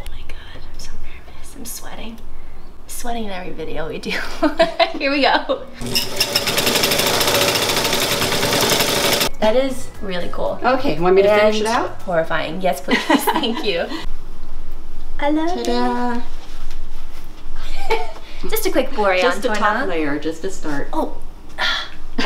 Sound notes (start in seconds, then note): 4.3 laughing; 5.8 machine humming; 18.3 laughing